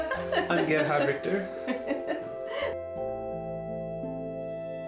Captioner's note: laughs; gentle music